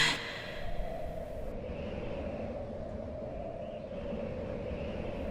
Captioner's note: air whooshing